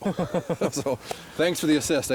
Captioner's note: laughing